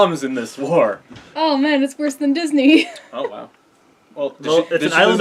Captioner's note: laughs